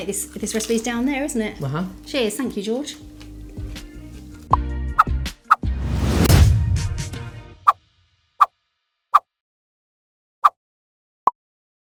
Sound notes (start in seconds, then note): 4.7 pop; 5.8 whooshing